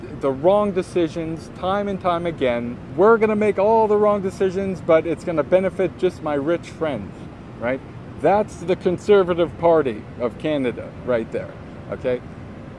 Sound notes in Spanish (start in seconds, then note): none